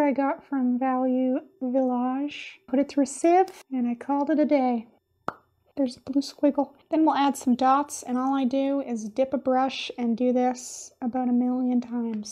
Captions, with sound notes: I got from Value Village put it through seive and I called it a day. [POP!] There's blue squiggle. Then we'll add some dots. And all I do is dip a brush and do this about a million times.